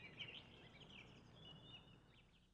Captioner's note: none